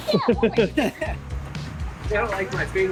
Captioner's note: laughs